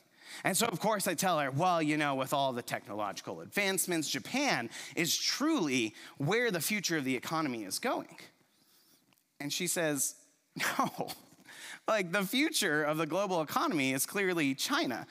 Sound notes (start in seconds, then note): 10.6 chuckles